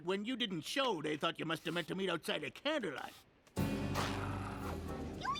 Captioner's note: nervous laugh